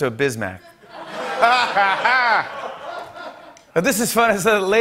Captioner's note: laughter